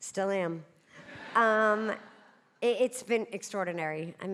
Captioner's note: audience laughing